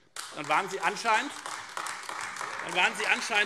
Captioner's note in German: Beifall AfD